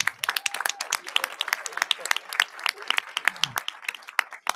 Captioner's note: audience applauding